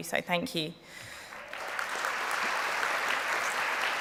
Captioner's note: applause